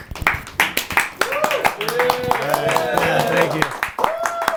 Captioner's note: group applauding and cheering